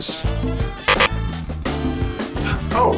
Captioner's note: buzzer